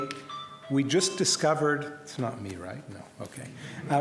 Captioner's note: phone rings in room